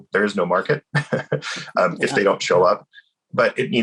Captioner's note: laughs